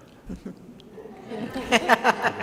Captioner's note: laughter